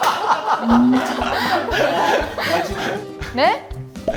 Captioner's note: everyone's laughing at the ridiculous acting out